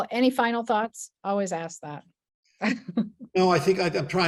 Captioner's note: laughs